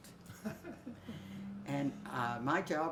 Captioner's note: laughs